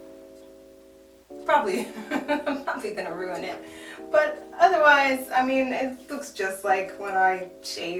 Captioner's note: laughs